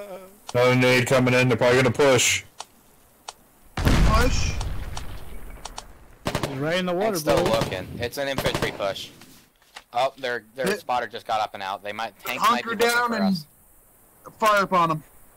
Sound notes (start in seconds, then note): 3.8 explosion; 6.2 ratatatatatata